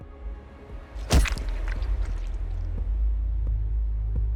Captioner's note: blood gushing